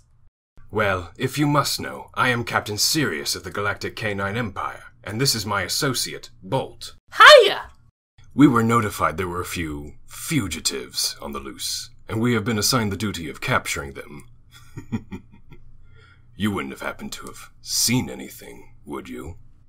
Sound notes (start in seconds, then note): 14.5 chuckles deeply